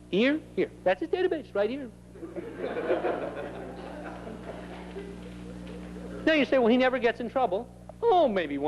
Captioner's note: laughter